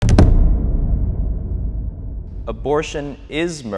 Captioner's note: audio thumping